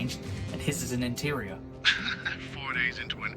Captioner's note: chuckles